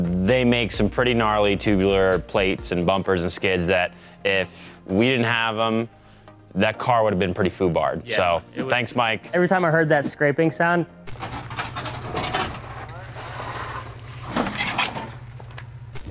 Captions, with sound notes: They make some pretty gnarly tubular plates and bumpers and skids that, if we didn't have 'em, that car would've been pretty FUBARed. So, thanks Mike. - Every time I heard that scraping sound, (metallic scraping and rattling)